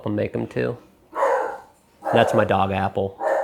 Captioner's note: indimidating barking